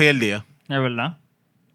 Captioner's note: speaking Spanish